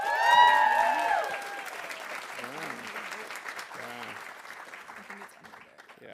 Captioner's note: audience cheering; audience applauding